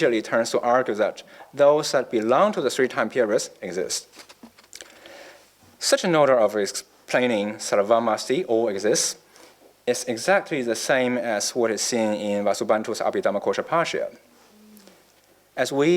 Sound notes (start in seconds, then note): none